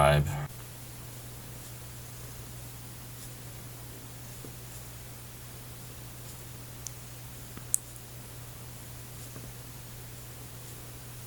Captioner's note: cat purring